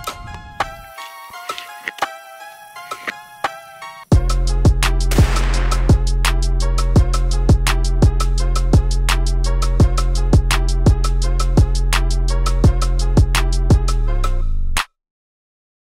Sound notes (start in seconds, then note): 0.3 bow popping; 5.1 gun banging; 9.8 gentle upbeat music